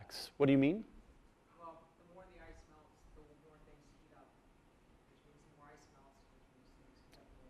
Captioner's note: voiceover